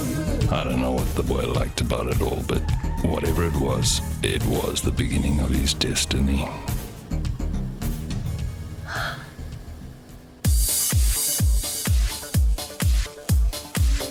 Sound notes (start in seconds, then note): 8.8 boy sighs; 10.3 dance music